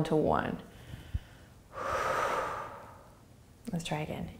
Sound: exhaling

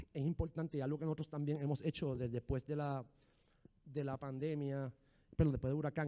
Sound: speaking in foreign language

